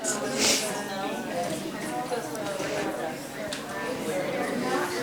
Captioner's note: chatter